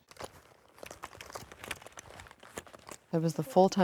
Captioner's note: rustling